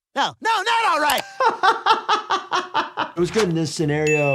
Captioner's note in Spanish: riendo